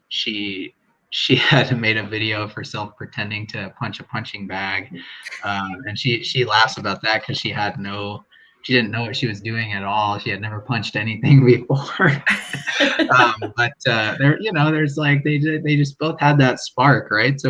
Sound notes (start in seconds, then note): 12.0 laughing